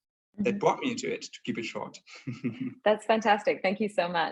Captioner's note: chuckling